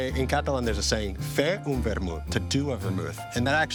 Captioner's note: speaks in foreign language